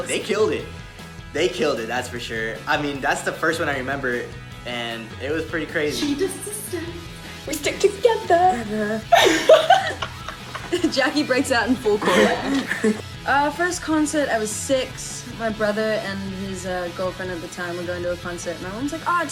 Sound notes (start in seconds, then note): 9.0 all laugh